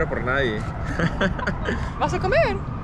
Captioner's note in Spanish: Risas